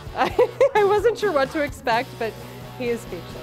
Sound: laughing

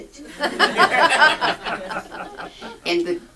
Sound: audience laughs

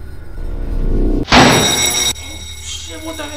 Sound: loud bell ringing

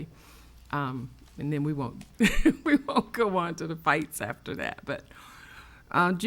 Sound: laughs

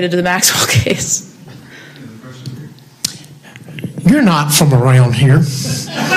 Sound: audience laughs

